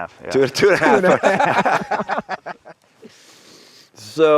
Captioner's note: laugh